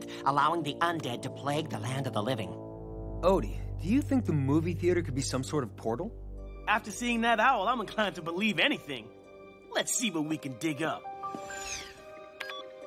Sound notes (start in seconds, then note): none